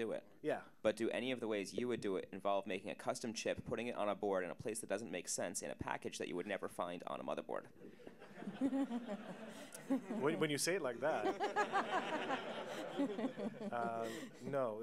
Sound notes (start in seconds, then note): 11.0 audience Laughter